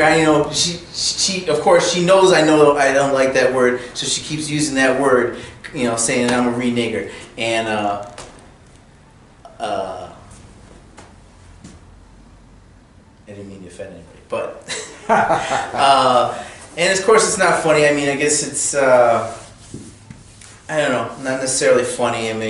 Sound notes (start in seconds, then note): 14.6 laughter